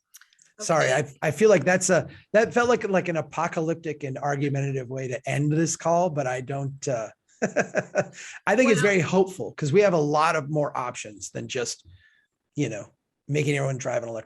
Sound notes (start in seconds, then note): 7.4 laughs